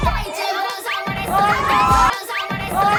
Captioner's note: swoosh